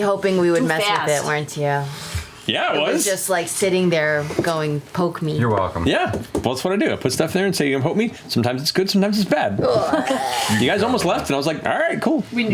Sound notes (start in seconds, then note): 9.6 groaning